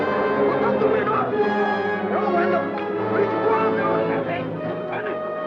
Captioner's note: adventurous orchestral music; soldier speaks Japanese